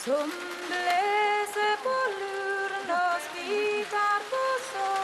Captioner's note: low conversations